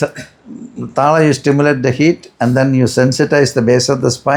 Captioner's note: clears throat